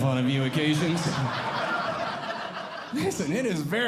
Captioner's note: audience Laughing